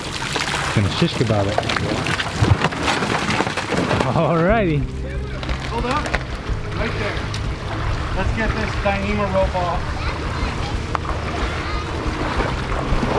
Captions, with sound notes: - [Male Voice] It's just about there. Alrighty. - [Male Voice] Let's get this thing up off.